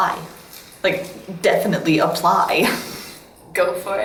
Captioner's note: chuckles